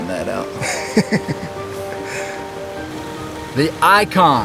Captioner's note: laughing